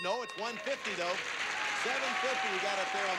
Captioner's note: audience applauding